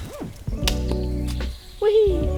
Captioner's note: chop